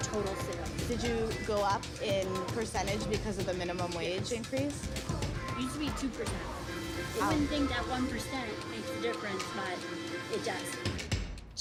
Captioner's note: servers and reporter talking